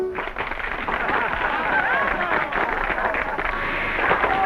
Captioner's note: audience clapping